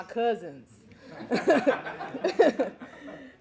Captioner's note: laughing